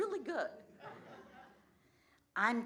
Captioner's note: laughter